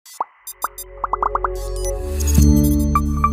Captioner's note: logo chiming